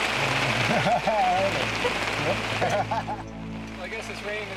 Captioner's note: laughter